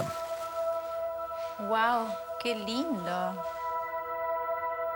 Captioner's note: speaking Spanish